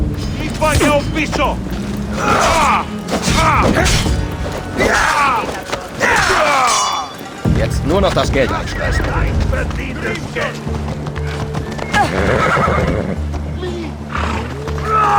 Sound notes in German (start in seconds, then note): 4.5 stöhnen; 6.1 schreien